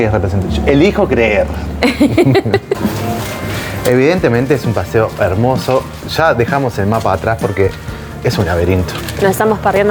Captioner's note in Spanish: risas